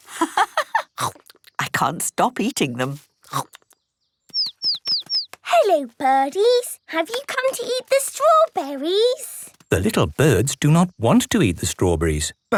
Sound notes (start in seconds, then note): 0.0 laughing; 4.4 chirping